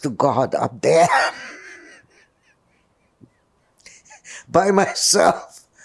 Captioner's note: laughing